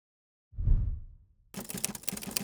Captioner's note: whooshing; typing